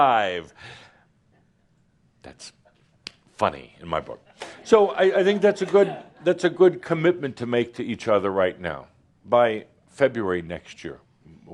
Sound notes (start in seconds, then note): 3.2 a few chuckles